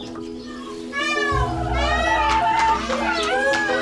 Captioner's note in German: Pfauenschreie